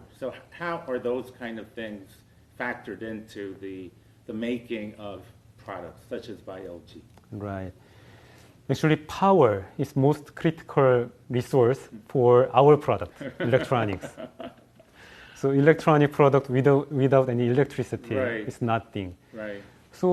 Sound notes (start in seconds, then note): 13.1 laugh